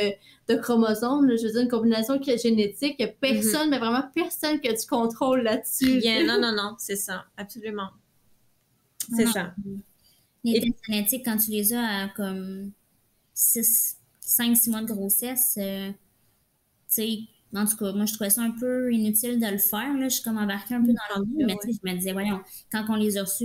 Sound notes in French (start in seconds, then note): 5.7 rires